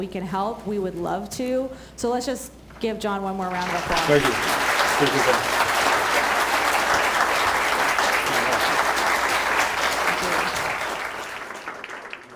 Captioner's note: applause